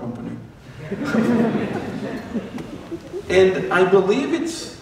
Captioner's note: laughter